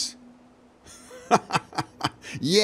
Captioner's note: laughter